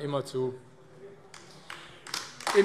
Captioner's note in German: Beifall AfD